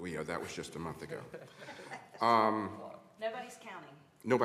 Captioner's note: laughter